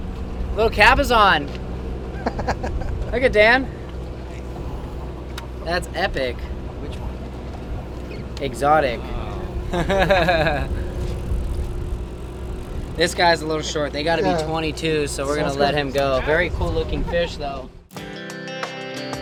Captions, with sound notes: Little cabezon. Look it, Dan. That's epic. Exotic. (laughs) This guy's a little short. They gotta be 22, so we're gonna let him go. Very cool looking fish though.